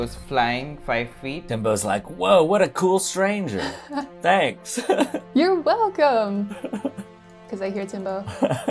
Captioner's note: laughs; laughter